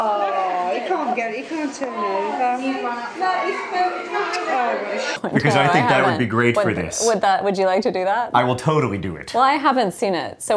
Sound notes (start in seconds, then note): 0.0 laughing; 0.0 chatter